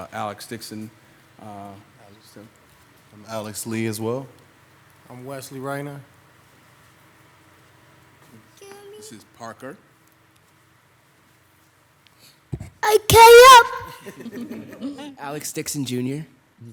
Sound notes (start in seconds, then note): 12.5 child shouts; 12.9 audience laughing